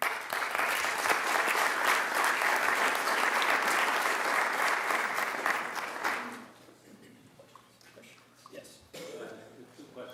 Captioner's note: applause